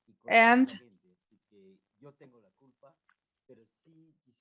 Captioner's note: speaks in Spanish